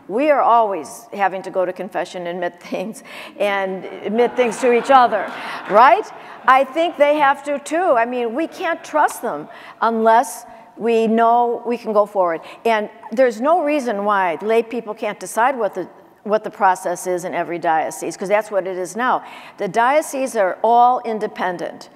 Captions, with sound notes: We are always having to go to confession and admit things, (audience laughing) and admit things to each other, right? I think they have to too! I mean, we can't trust them unless we know we can go forward. And there's no reason why lay people can't decide what the process is in every diocese, 'cause that's what it is now. The diocese are all independent.